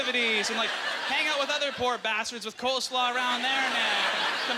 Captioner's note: audience laughter